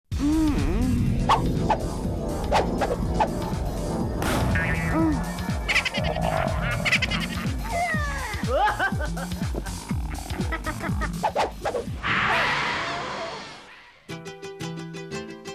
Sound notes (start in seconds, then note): 0.1 moans; 8.2 laughter